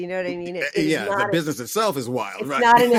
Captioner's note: laughter